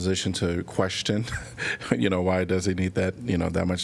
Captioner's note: laughter